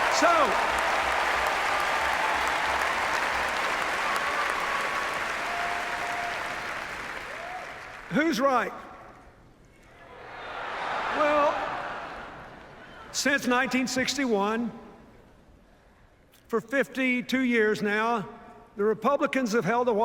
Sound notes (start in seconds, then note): 0.0 cheers, applause; 10.1 cheers